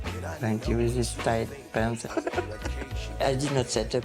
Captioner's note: laughs